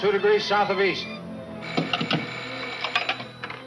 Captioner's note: phone ringing